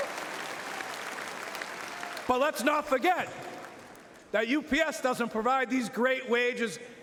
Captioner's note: cheering and Applause